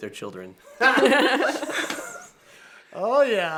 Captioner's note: both laughs